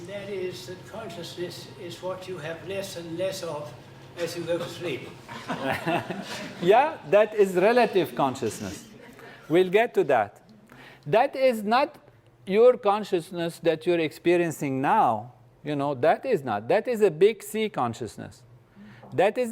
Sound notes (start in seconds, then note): 4.6 laugh